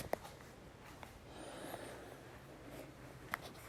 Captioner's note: I breathe deeply